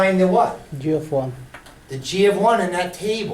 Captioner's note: voiceover